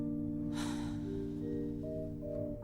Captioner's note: sighs